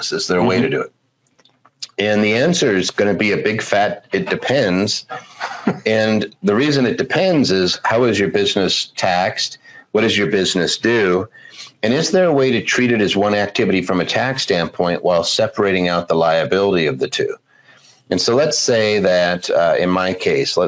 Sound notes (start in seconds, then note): 5.0 laughs